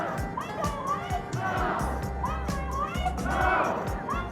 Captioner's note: upbeat music; crowd shouting